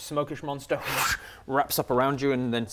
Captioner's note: fwoosh